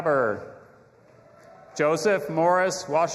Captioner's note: audience applauding and cheering